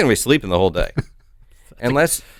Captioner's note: chuckles